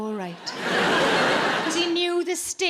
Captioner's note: audience laughs